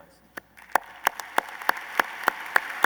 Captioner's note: applause